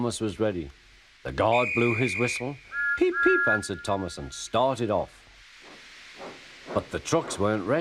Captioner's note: Guard blows whistle, followed by Thomas whistling back